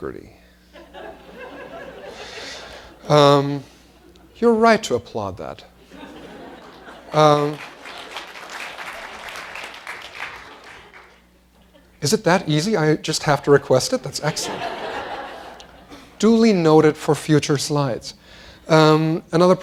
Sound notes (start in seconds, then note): 0.7 laughter; 8.8 applause